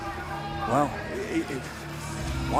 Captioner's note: crowd cheering